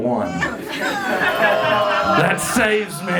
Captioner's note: crowd groans